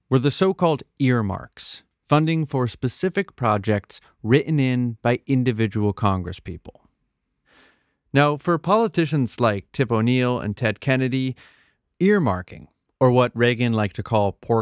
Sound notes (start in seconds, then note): none